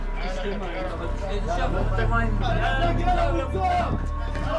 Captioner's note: Arabic spoken audio